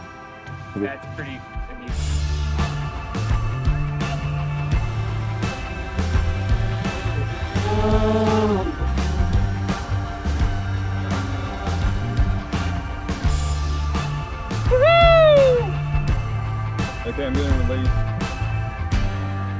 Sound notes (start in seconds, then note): 7.5 engine revving